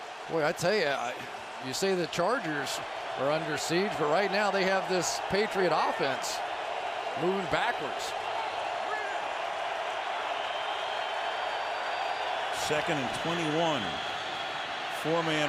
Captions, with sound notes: And boy, I tell you, you say the Chargers are under siege. But right now, they have this Patriot offense moving backwards. [crowd cheering] Second and 21.